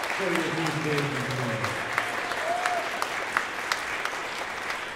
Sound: applause

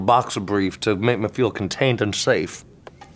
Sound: in southern accent

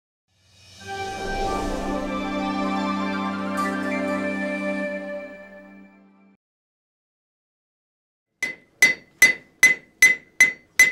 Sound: blacksmith working

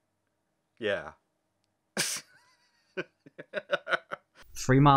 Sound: laughter

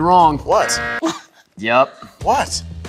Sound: buzz

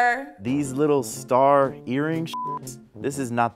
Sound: beep

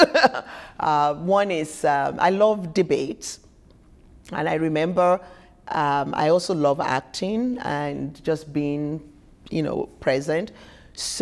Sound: laughter

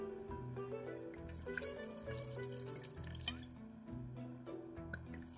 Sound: wine splashing; wine splashing

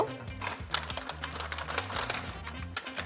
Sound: shake shake

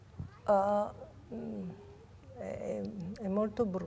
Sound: sighs

